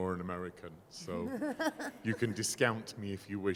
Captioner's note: laughing